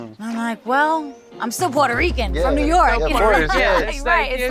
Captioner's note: all agreeing